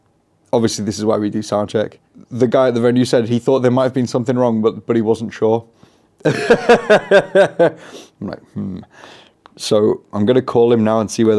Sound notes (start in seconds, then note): 6.3 laughs